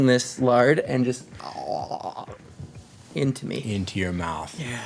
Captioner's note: gurgling noise